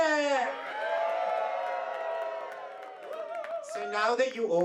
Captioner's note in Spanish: aplausos y vítores